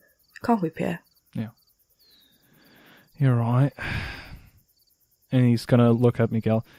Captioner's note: sighs